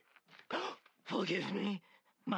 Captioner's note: gasp